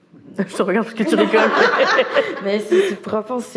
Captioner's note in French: rires